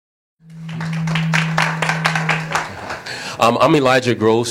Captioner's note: applause